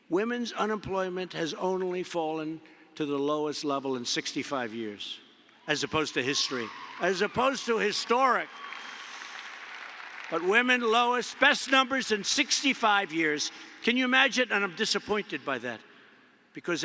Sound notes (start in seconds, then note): 9.3 applause